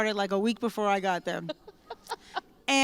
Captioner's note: laughter